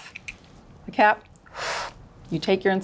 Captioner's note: inhales loudly